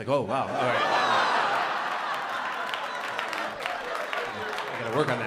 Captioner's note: laughter